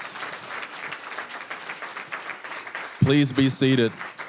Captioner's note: applause